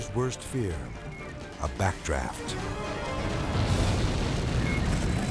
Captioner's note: fire whooshes